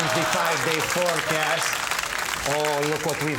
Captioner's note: audience cheering